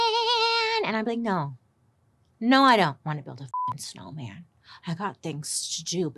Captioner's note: beep